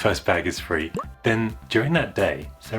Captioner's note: pop!